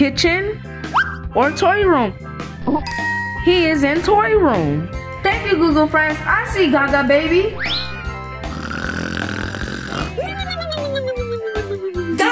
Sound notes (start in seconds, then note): 2.8 bell dinging; 8.0 upbeat music; 8.4 snoring